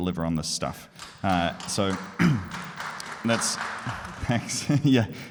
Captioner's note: audience applauding